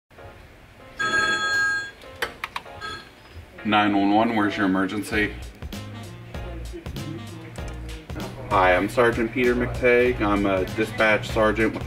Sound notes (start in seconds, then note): 0.9 phone rings; 6.2 upbeat music